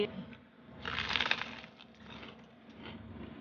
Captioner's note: crunches